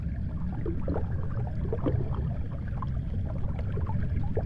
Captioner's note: water sloshes